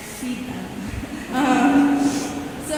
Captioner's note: chuckling